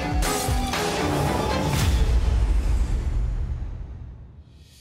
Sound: airplane taking off

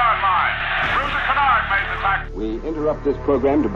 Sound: radio Interruption Noise

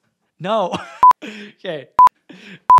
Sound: laughs

